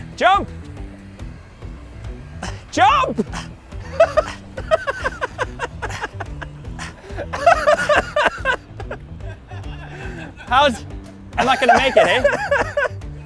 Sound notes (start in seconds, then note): 3.6 laughing; 8.7 Whole Chip Ganassi Racing team laughing